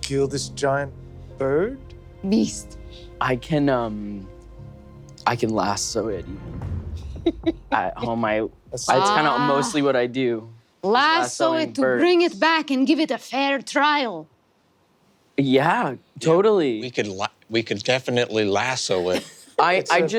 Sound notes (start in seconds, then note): 7.0 laughs